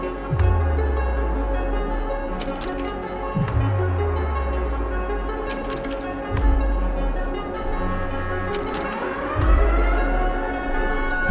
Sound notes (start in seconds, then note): 0.2 screen booming; 2.2 projector clicking; 3.4 screen booming; 5.3 projector clicking; 6.5 screen booming; 7.1 projector clicking; 9.4 screen booming